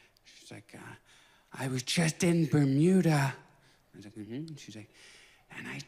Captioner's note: whispered